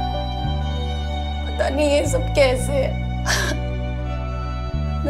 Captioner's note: Sobbing